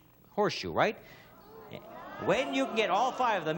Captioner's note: audience groaning